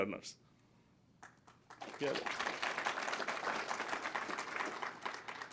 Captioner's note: applause